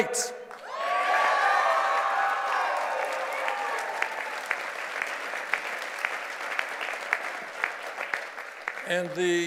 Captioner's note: cheers and applause